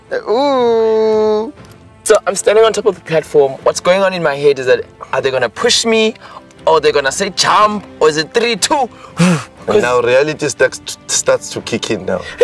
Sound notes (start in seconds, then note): 9.0 blows